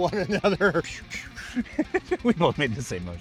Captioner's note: laughing